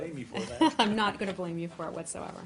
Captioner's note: laughter